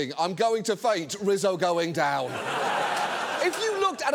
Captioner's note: studio audience laughing